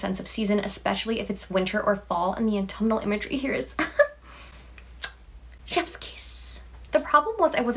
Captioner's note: chef’s kiss